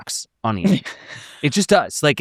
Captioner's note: chuckles